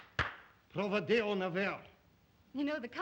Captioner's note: claps hands; Zaroff speaks Russian